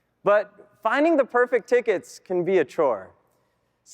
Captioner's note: none